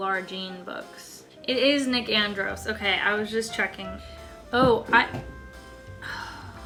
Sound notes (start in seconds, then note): 4.4 grapes fall on the floor with a thud; 6.0 sigh